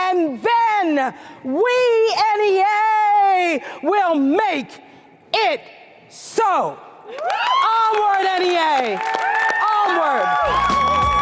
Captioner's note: cheers & applause